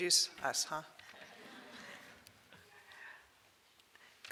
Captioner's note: audience laughs